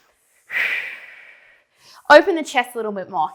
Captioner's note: breathing sharply